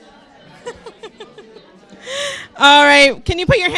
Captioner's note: laughs